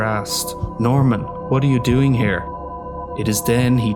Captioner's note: snooty Accent